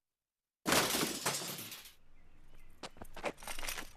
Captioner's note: crashes